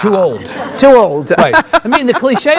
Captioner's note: laughs